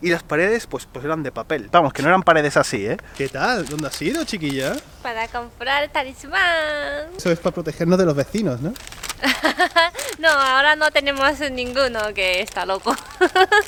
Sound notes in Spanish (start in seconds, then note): 9.2 risas